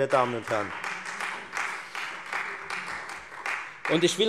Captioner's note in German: Beifall Freie Demokraten